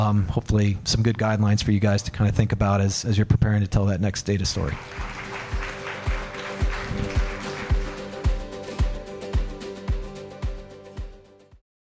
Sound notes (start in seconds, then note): 4.6 audience claps; 5.2 light guitar music